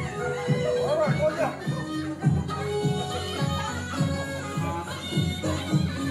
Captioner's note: man speaks in Chinese language